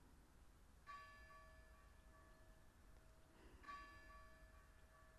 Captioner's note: church bell ringing